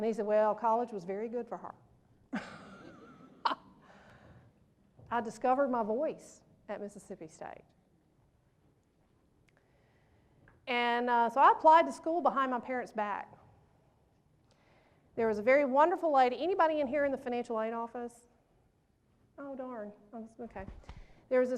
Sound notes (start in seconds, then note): 2.3 laughs